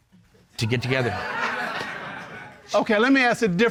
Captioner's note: audience laughing